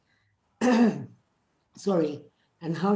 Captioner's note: clears throat